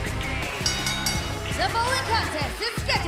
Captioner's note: bell ringing